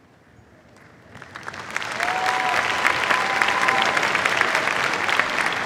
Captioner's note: cheers, applause